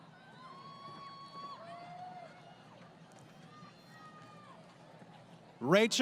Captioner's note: crowd Cheering